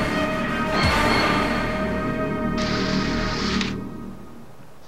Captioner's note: door closing; sliding; music stops